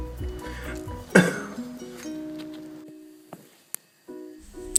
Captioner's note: coughs